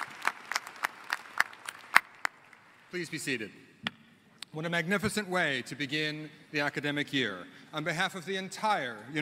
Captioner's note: applause